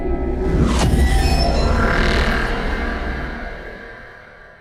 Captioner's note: ominous ambient music; title thudding